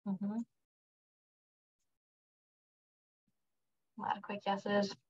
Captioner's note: silence